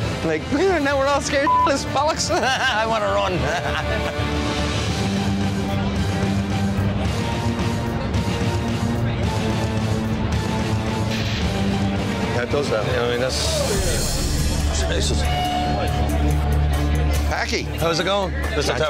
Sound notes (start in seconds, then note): 1.4 beep; 3.3 laughs